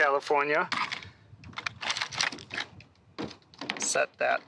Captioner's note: plastic train rattling